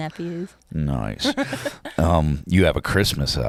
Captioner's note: laughs